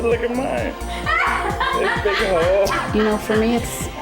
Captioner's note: they mumble and laugh; they laugh